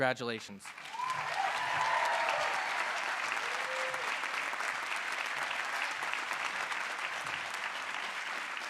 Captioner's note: applause